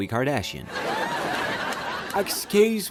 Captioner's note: laughter